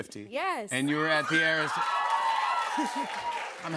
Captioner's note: cheers and applause